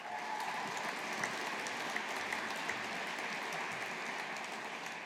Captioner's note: audience applauding